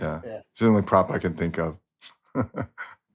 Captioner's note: laughs